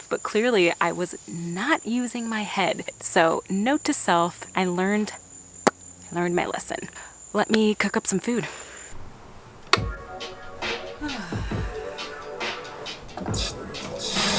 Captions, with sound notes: but clearly I was not using my head. So note to self, I learned... (smacks lip) I learned my lesson. Let me cook up some food. (relaxed music)